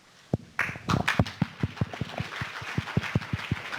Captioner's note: applause